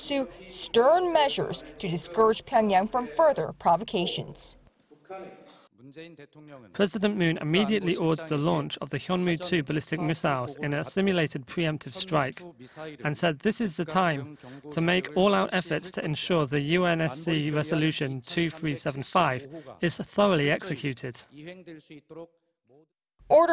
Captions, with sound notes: "stern" measures to discourage Pyongyang from further provocations. (Korean) "President Moon immediately ordered the launch of Hyunmoo-2 ballistic missile off in a simulated pre-emptive strike and said this is the time to make all out efforts to ensure the UNSC resolution 2375 is thoroughly executed."